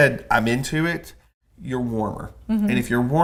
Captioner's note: laughs